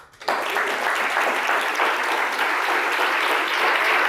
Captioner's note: audience applauds